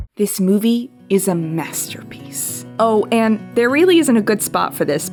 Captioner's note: none